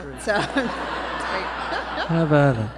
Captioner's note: laughter